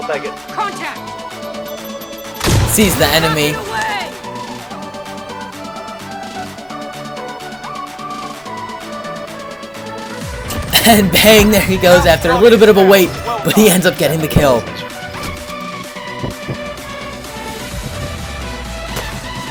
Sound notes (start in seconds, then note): 2.4 gun shooting